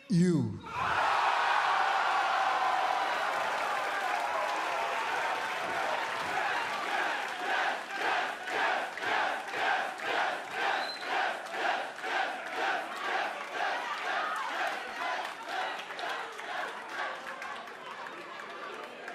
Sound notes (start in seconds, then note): 0.1 cheers and applause; 6.8 fans chanting